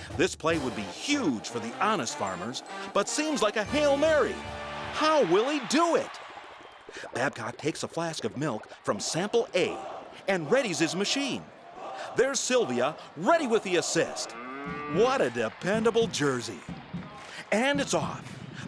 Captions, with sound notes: This play would be huge for the Honest Farmers, but seems like a Hail Mary. How will he do it? [flask bubbling] Babcock takes a flask of milk from sample A and readies his machine. [crowd cheering] There's Sylvia, ready for the assist. [cow mooing] What a dependable Jersey. And it's off!